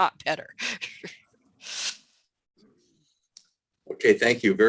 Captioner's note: chuckles